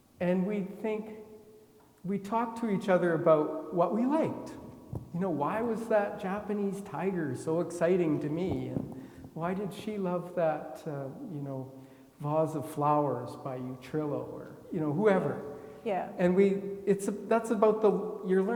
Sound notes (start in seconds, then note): none